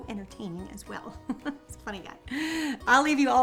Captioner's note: chuckling